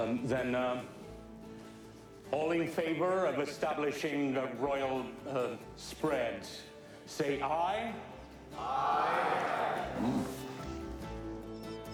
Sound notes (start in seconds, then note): 9.7 Hank grunts